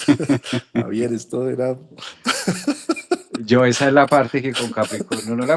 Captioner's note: laughs